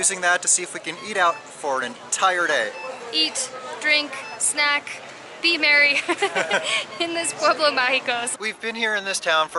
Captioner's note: laughter